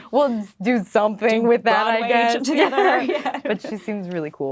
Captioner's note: laughing